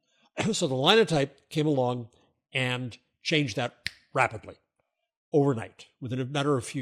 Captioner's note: finger snap